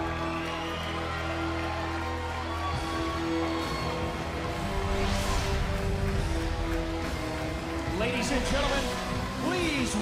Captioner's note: cheers and applause